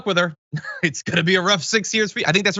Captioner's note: laugh